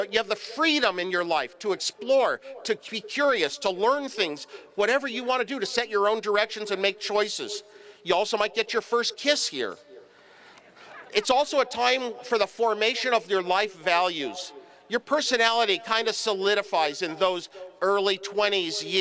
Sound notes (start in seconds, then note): 10.9 laughter